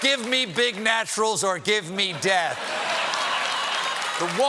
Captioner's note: cheers and applause